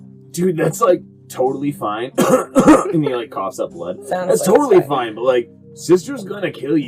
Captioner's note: coughs up blood